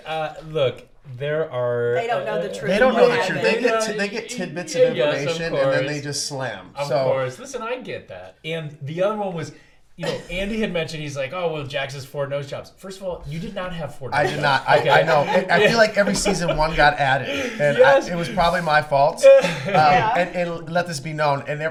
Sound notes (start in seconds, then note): 14.2 laughs; 19.2 laughs